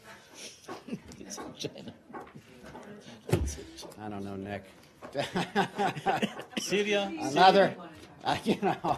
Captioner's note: laughter